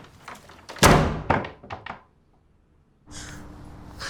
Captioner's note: door slams